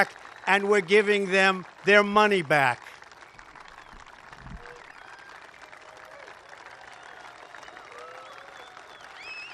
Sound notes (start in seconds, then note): 2.6 applause